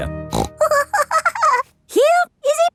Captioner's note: snorts and giggles